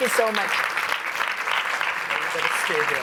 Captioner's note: applause